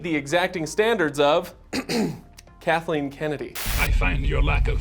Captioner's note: clears throat